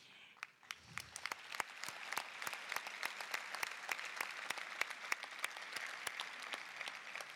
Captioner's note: applause